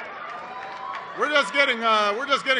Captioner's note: applause